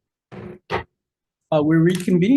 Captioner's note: gavel thudding